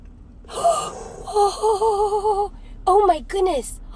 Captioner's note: both gasping